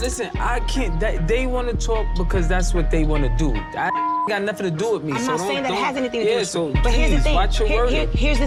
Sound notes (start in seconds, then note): 3.9 beep